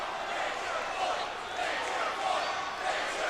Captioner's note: crowd cheering